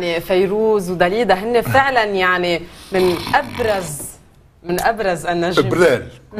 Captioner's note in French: il renifle